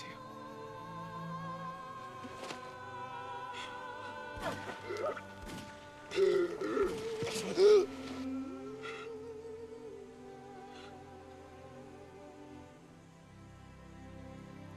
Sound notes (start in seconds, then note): 4.1 gunshots; 5.6 gagging